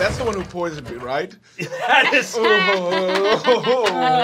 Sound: laughing

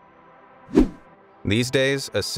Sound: video whooshing

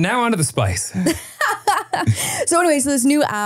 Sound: laughs

